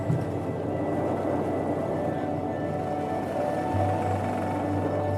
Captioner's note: plane engine drone